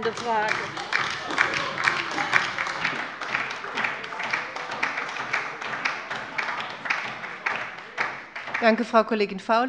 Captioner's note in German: Beifall bei der LINKEN und bei Abgeordneten der SPD